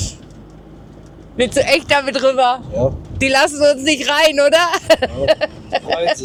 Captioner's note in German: gelächter